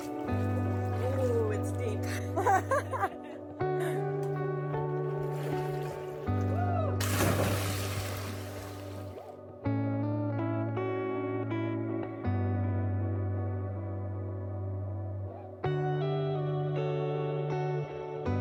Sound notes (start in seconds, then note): 5.6 laughter